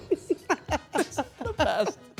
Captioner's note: Stephanie and Dylan laughing